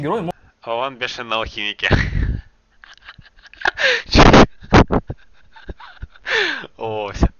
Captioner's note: laughter